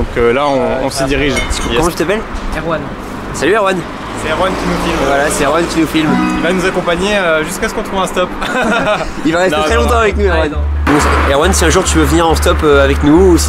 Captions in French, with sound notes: donc là on s'y dirige. - Comment tu t'appelles ? - Erwann. - Salut Erwann ! - C'est Erwann qui nous filme. - Voila, c'est Erwann qui nous filme. - Il va nous accompagner jusqu'à ce qu'on trouve un stop ! (rires) Il va rester très longtemps avec nous Erwann. Erwann, si jamais un jour tu veux venir en stop avec nous,